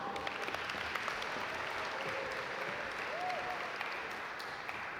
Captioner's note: audience applaud